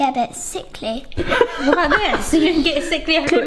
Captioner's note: laughs